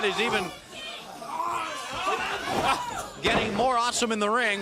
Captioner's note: crowd chatter